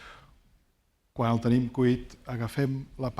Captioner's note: speaking spanish